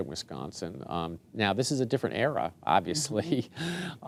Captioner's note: chuckling